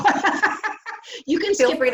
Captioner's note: laughs